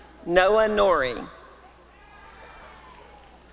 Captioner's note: applause and cheering